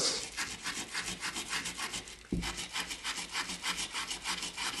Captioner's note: sandpaper rasping